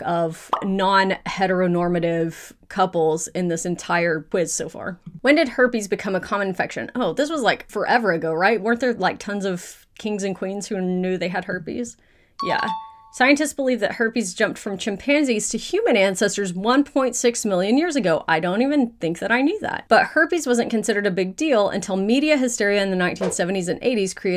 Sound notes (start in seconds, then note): 12.4 question dings